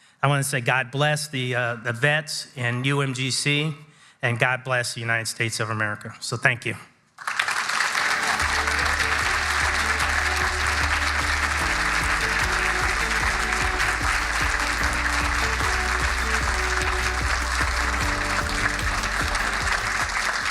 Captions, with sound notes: I wanna say God bless the vets in UMGC and God bless the United States of America. So thank you. (audience applauding) (bright music)